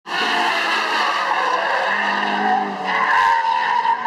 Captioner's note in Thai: ยางรถยนต์ร้องเสียงกรี๊ด